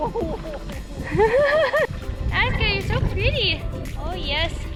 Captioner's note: laughter